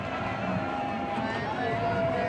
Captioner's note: crowd cheering